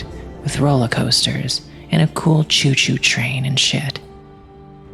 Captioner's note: none